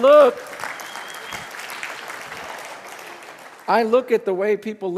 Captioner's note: congregation clapping